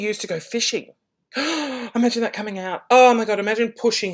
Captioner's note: gasps